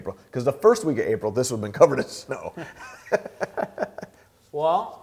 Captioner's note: laughing